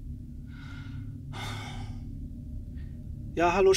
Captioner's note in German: Seufzen